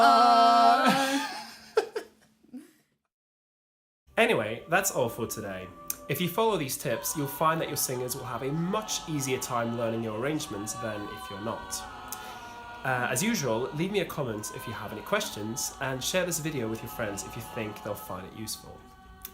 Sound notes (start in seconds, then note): 0.8 laughs